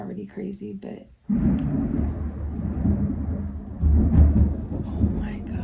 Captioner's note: thunder